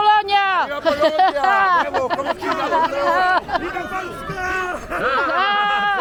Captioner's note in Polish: śmiech